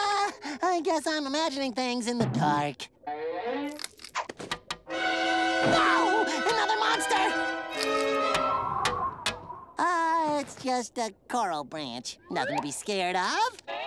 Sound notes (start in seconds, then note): 4.4 knocking; 8.8 tapping